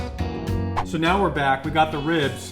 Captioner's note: swoosh